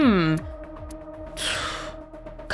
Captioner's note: exhales